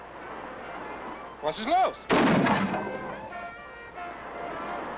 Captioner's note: gun fires